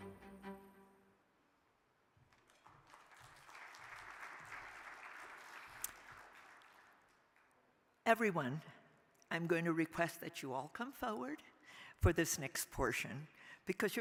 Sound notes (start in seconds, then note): 2.3 crowd applauding